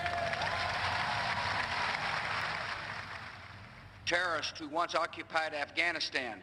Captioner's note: cheers and applause